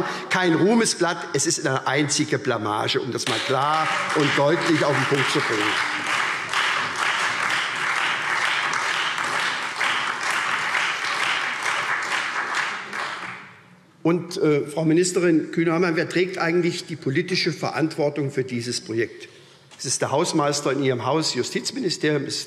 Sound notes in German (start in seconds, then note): 5.0 Beifall SPD und Freie Demokraten